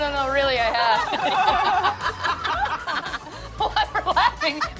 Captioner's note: laughter